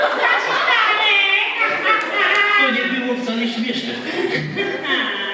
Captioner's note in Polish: Aplauz